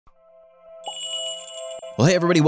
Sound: magical jingle

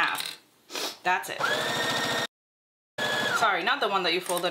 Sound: sewing machine whirring

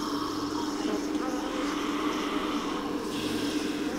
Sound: buzzing

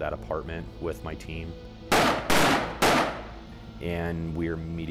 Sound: gunshots

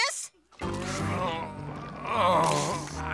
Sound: moaning

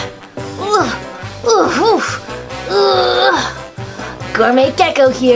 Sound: gecko grunting

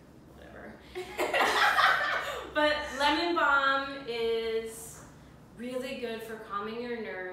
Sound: laughter

